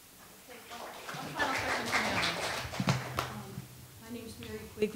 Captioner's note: attendees applauding